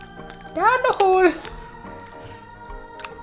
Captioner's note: Spudgy voice; Spudgy voice